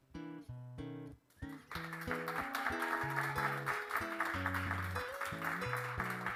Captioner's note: applause